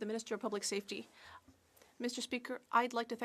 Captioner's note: speaking French